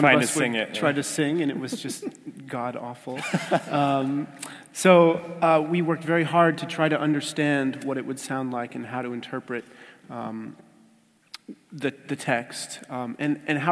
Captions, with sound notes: >> Trying to sing it. >> Try to sing, and it was just God awful. [LAUGH] So we worked very hard to try to understand what it would sound like and how to interpret the, the text, and, and